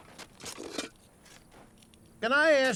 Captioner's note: shovel scraping